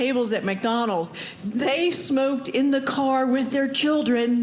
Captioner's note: none